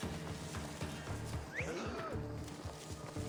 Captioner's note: whistle